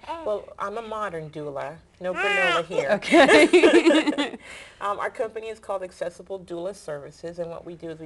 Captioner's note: laughter